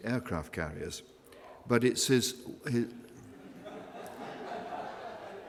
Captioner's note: laughter